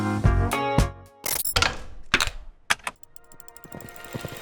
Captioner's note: objects clicking; majestic music